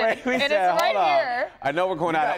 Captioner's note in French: laughter